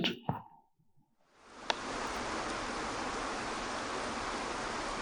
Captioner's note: waterfall rushes